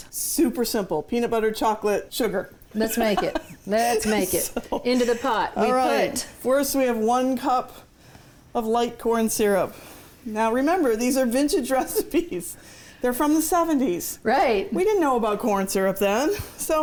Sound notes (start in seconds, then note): 2.8 laughs